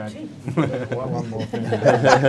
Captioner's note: men laughing